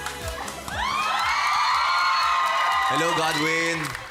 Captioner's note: audience squealing, clapping